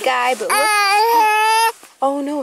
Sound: whimpering loudly

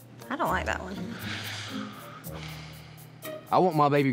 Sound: sighs

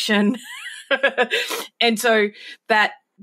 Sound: laughs

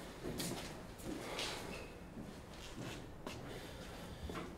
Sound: quiet pattering footsteps

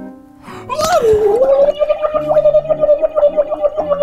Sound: water bubbling

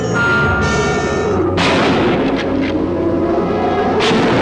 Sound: gun firing

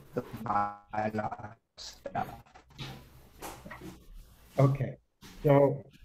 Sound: audio cuts in and out

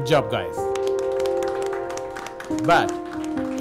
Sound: applause

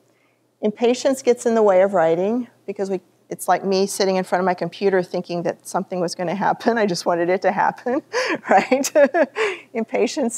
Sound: laughter

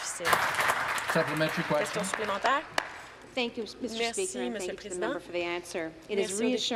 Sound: some Applause

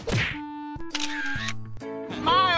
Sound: camera click

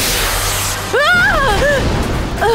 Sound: Queen shrieks

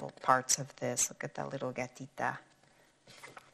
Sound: speaking in foreign language

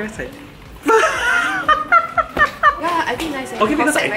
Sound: laughs

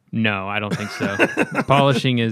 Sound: laughter

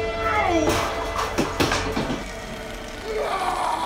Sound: lamp thumping

